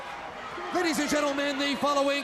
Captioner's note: crowd cheering